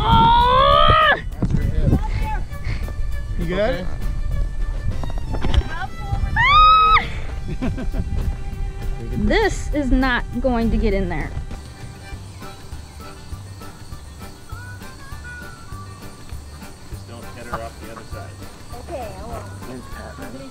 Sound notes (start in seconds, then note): 6.2 shrieks; 6.9 laughs; 20.3 crowd chats